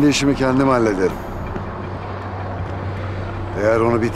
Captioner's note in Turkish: Trafik sesi